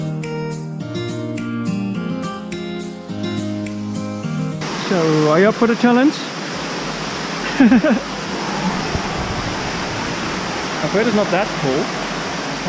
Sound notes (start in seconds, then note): 7.4 laughter